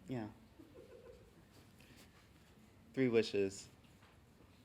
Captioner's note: giggling